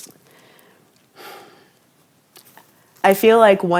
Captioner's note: sighs